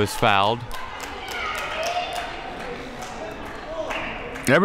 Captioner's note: clapping